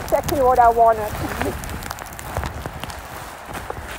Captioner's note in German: lacht